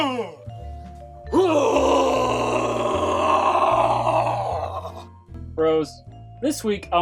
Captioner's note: makes grunting noise